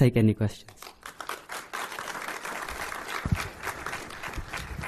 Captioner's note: applause